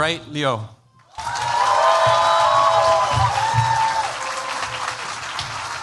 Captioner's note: cheers, applause